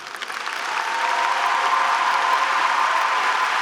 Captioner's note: group cheering